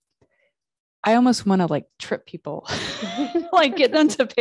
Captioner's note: chuckling